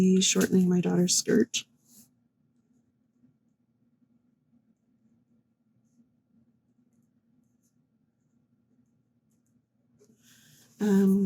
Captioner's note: no sound